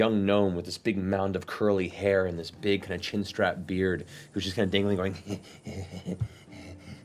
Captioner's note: wheezing laughter